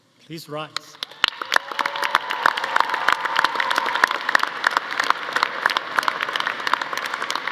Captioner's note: audience applauding; audience cheering